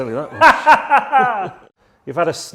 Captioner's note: both laughing